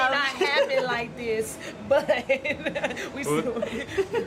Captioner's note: laughter